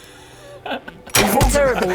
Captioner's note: twang